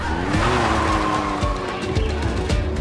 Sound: tires squeal; engine revs; music rises

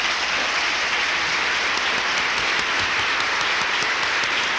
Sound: applause

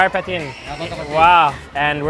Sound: boss speaks in a foreign language

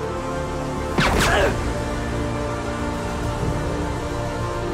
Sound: gun shoots

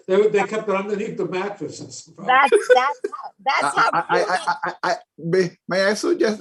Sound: chuckles

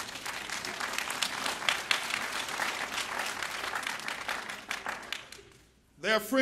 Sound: applause

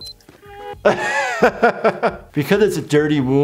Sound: laughter

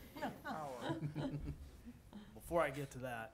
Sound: some laughing

